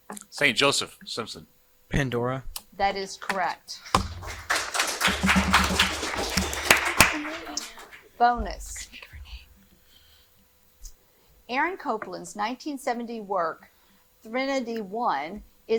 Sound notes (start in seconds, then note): 3.9 audience applauding